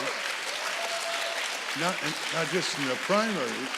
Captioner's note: audience applauding